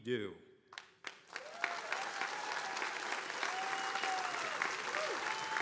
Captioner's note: attendees cheering and applauding